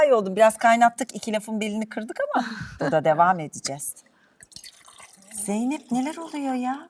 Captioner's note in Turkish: kahkaha